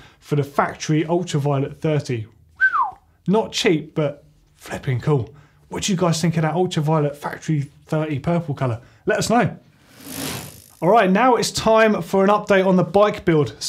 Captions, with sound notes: for the Factory Ultraviolet Thirty. (whistle) Not cheap, but flipping cool. What do you guys think of that Ultraviolet Factory Thirty purple color? Let us know. All right now it's time for an update on the bike build.